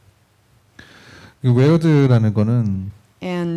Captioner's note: speaking korean